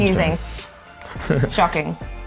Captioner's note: laughs